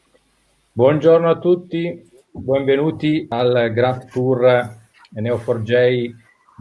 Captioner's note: speaking in foreign language